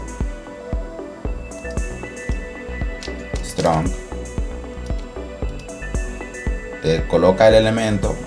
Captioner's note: typing